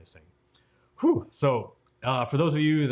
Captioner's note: exhales